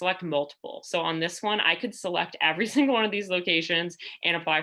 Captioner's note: laughter